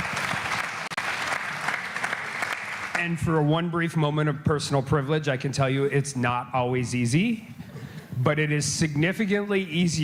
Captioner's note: applause